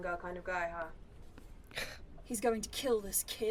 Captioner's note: Remus scoffs